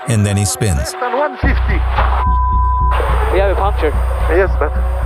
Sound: beep

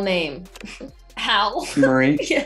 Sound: laughing

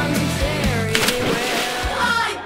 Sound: splash!

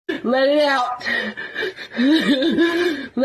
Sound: heavy breathing intensifies

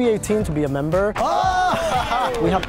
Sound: shouting

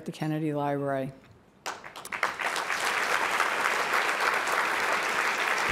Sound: applause

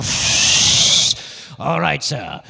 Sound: making whistling noise

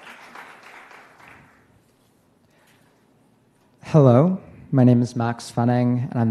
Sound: applause

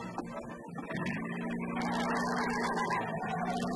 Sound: engine starts

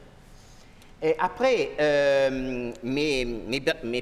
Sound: speaking french

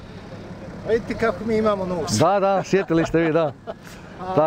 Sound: laughs

